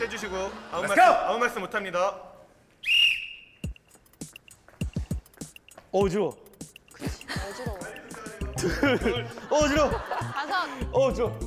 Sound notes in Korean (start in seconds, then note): 2.8 호루라기 소리